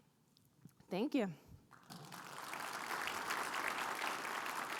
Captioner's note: audience applauds